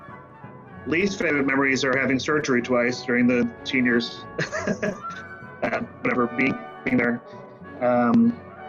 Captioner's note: nervous laugh